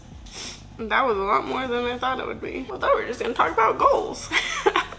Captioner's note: laughs